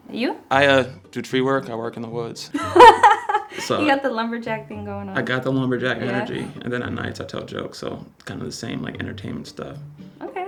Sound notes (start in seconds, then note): 2.6 laughs